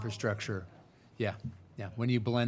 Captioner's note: speaking faintly